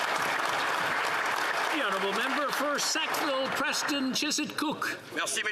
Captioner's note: applause